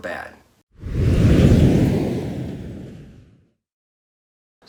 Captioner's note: air whooshing